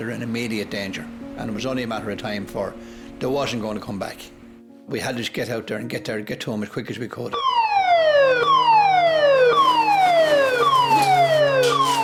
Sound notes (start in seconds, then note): 7.3 sirens blare